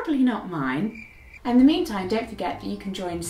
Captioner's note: crickets chirping